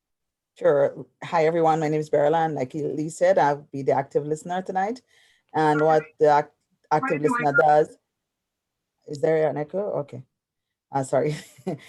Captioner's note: microphone feedback